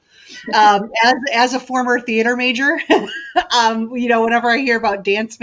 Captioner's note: laughs